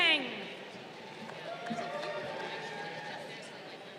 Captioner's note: crowd cheering